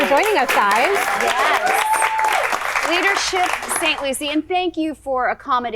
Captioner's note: applause